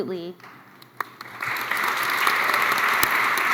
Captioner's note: applause